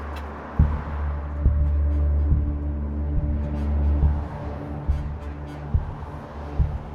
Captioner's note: officer Whispers